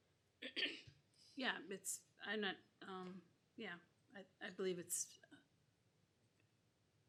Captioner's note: clears throat